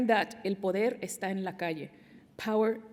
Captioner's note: non-english speech